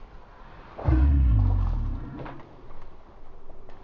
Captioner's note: deep shout; loud thump